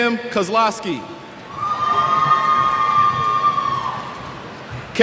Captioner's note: cheers